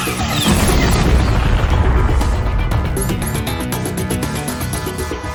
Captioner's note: wind whooshing; explosion booming